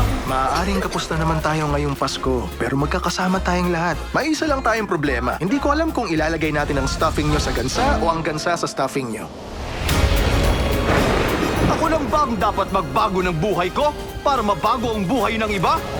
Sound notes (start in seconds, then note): 9.3 thunder crashes